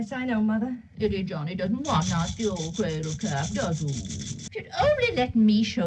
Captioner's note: grandmother, in baby-talk, shaking rattle